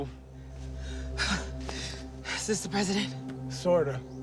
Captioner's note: panting